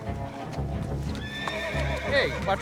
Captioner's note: horse whinnies